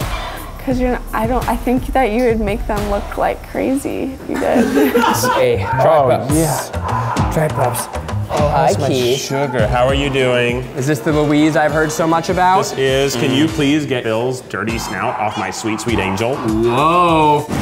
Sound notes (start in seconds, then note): 4.3 laughter